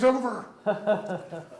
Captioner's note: laughs